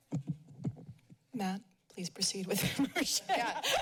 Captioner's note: chuckles